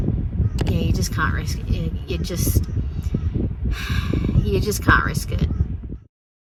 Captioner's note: sighs heavily